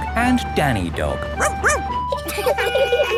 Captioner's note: sirens sounding; barks; laughing